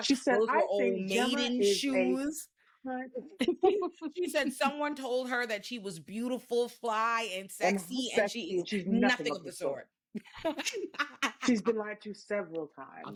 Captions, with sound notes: She said, "I say, "Gemma is a- She said, "Someone told her that she was beautiful, she's fly and sexy and she is nothing of the sort." (laughing) She's been lied to several times.